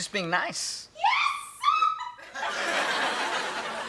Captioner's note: laughs